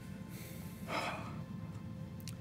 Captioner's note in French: soupire